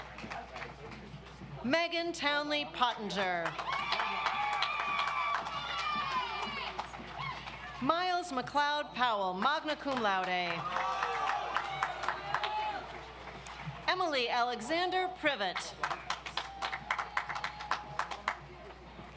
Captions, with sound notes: Megan Townley Pottenger. (audience applauds) Miles McLeod Powell, Magna Cum Laude. (audience applauds) Emily Alexander Privott. (audience applauds)